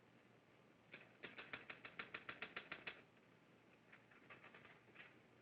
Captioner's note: typewriter keys clicking